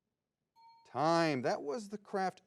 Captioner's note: bell dings